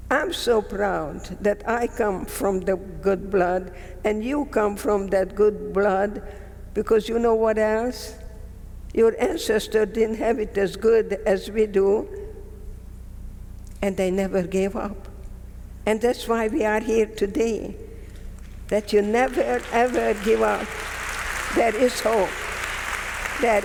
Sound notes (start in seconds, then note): 20.7 audience clapping